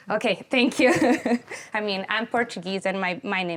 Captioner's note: chuckles